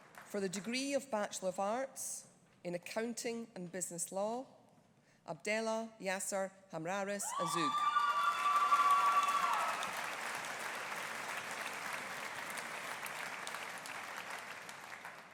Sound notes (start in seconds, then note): 7.3 audience cheering; 7.7 audience applauding